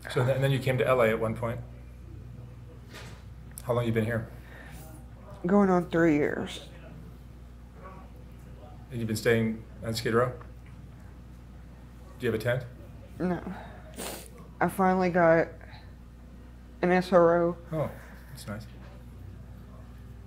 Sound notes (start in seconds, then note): 13.6 sniffling